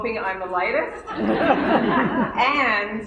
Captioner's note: laughter